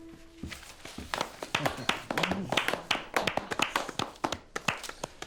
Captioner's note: players applauding